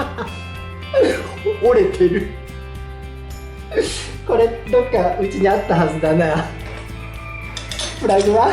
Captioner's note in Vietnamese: cười